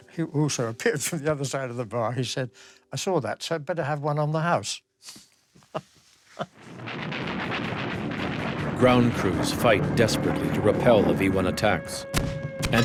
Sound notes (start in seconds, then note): 6.3 laughs; 6.4 air whooshing